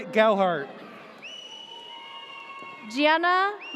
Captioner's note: audience cheers